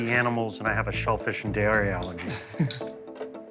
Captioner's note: chuckles